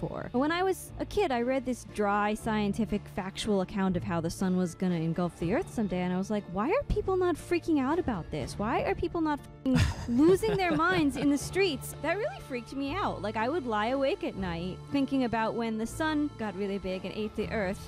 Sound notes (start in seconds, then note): 9.7 laughing